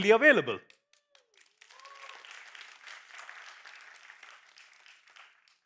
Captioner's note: applause